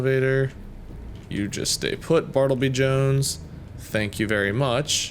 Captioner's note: none